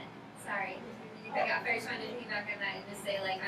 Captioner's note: speaking softly